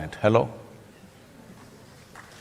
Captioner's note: applause